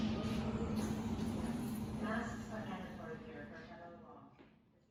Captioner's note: intercom